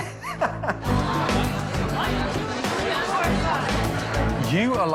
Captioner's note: uplifting music; laughing; indistinct chatter